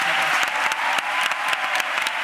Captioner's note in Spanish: Aplausos y vítores